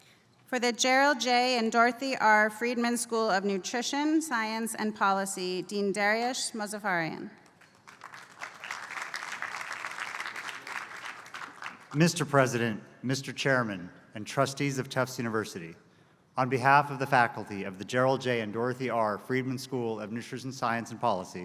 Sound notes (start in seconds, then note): 7.4 applause